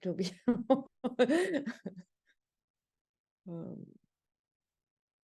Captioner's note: person laughing